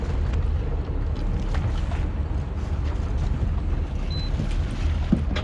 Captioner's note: boat engine idling